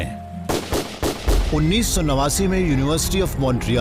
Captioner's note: gunshots